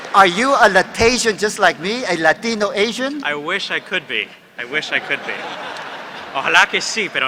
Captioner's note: speaking Spanish; speaking Spanish